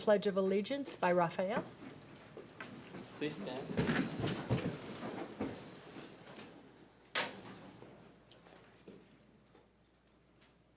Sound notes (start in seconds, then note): 5.9 chairs rustling